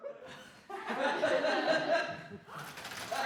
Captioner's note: laughter